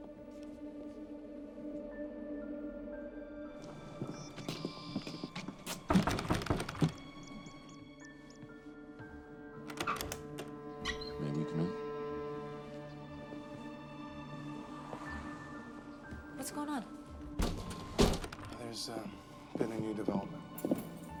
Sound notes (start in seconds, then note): 3.6 birds chirping; 5.9 knock on door